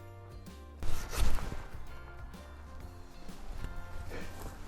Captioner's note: upbeat music; sawing; upbeat music